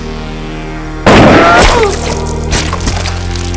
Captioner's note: gun fires; slow electronic music